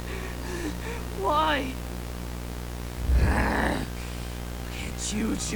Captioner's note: growl